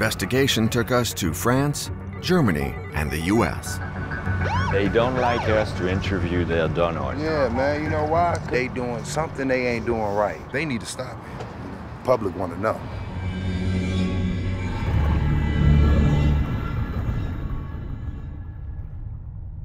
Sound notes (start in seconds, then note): 3.9 police siren whaling; 12.8 haunting instrumental music